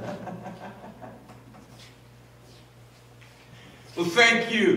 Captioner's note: laughs; feet shuffle